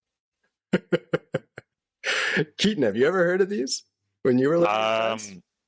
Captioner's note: laughter